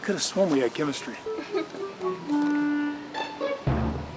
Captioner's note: cashier giggles